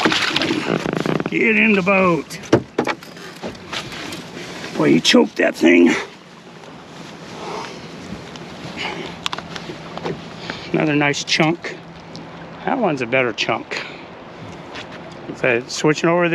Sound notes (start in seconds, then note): 3.0 fish splashing; 3.3 creaking